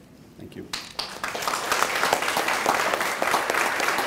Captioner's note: clapping